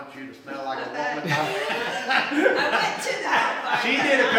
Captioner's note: laughs